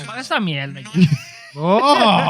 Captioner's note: non-english Speech